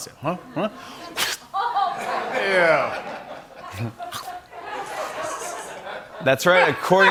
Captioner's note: laughter